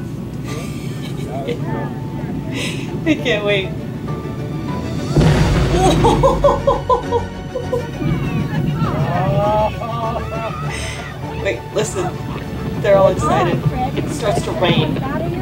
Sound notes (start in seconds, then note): 0.0 background music; 0.0 background noise/chatter in clip; 0.2 background music; 0.5 chuckles; 4.6 explosion noise; 4.9 background music; 5.8 laughing; 7.2 background noise/chatter in clip; 7.3 background music